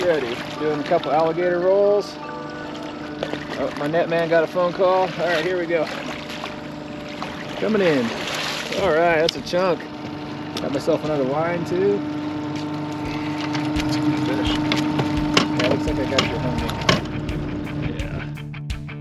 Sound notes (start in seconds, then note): 1.9 phone ringing; 5.2 fish splashing